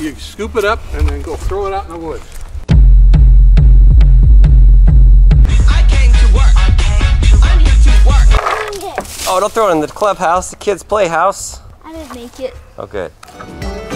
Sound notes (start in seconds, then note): 8.0 rattling